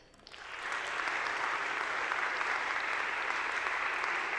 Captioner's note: people clapping